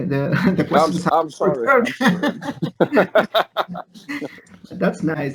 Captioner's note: laughs